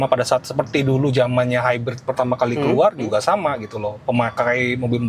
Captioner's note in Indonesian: berdehem